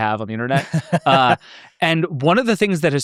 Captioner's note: laughs